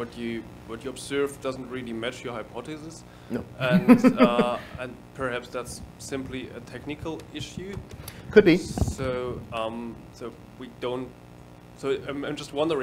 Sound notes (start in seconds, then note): 3.6 laughing